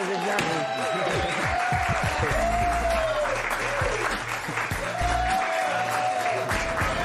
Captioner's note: cheers and applause